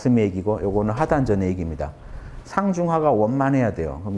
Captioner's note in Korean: 호흡